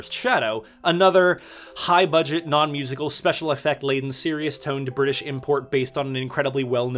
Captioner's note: deep breath